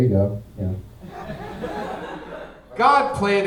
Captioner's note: audience laughing